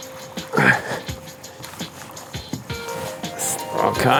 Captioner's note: Mike grunts